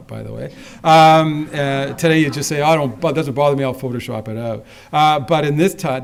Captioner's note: laughter